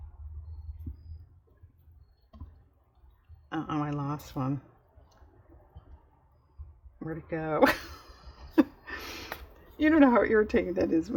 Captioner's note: laughs